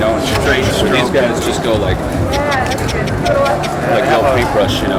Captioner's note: clicking